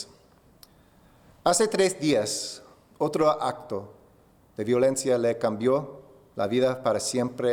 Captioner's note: speaking spanish